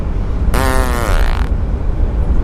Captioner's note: bold fart